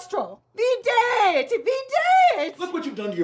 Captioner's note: angrily speaking Latin